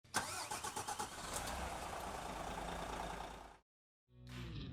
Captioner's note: bus engine roaring; upbeat music